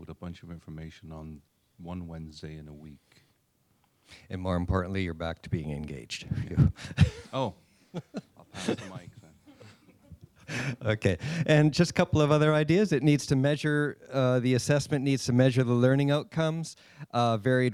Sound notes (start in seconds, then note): 7.9 laughter